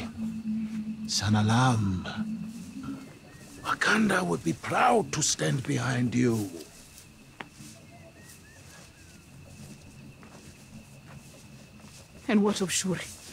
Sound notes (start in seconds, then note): 1.0 speaking xhosa